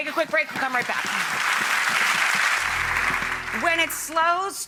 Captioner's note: applause